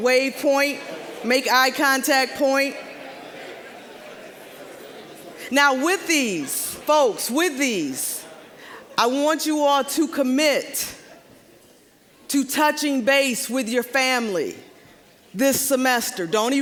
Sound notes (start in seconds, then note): 2.2 general chatter